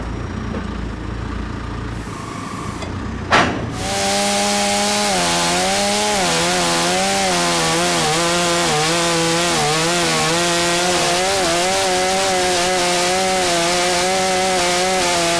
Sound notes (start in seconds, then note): 3.6 chainsaw buzzing